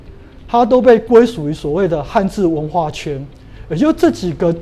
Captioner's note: chinese words